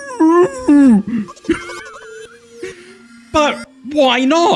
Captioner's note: laughs